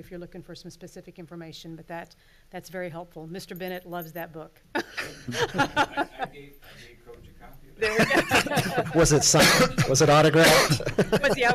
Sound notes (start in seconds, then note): 5.0 loud laughter; 7.8 laughs